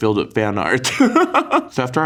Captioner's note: Kim laughs